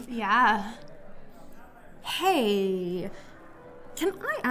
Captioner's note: none